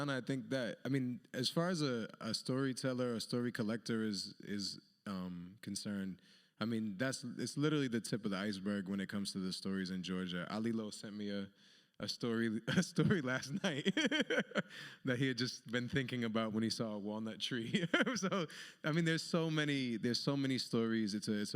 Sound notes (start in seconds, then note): 12.9 laughs